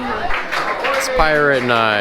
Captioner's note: crowd cheers